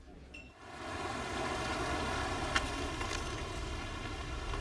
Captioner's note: car engine running